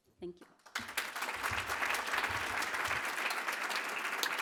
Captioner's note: applause